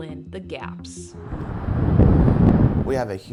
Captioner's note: wind whooshing